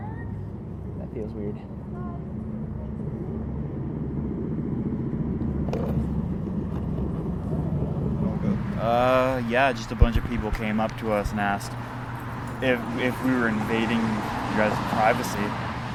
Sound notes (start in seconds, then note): 3.3 traffic humming continues; 6.0 cup rattling